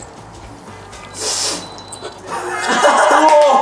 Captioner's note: beeping camera